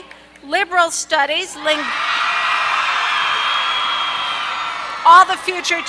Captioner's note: applause